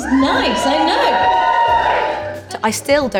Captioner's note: audience Cheers